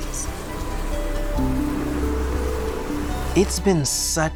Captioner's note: insect buzzing